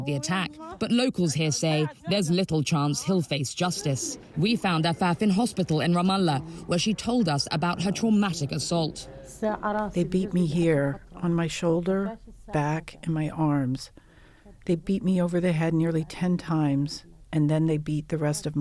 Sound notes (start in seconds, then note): 11.1 through translator